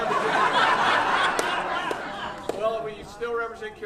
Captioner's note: audience laughing